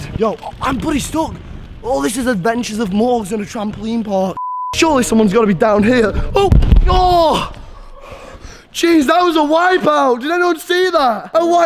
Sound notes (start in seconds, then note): 4.3 beep